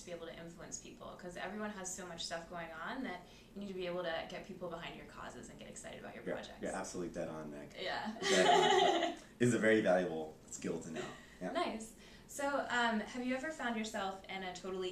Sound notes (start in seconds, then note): 8.2 laughing